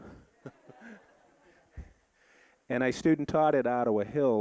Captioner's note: audience laughing